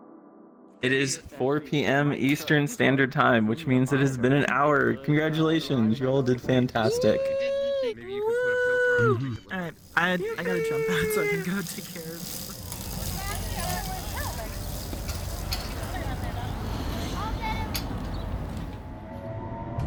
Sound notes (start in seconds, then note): 11.2 bike chain gets louder; 13.1 bike chain clicks; 13.1 chatter